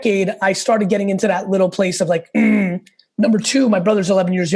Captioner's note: grunting